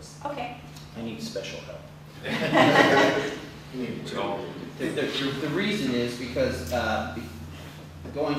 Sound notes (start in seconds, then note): 2.2 laughter